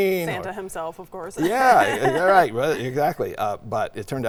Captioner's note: laughing